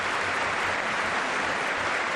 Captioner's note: applause